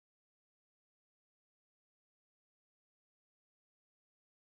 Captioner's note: none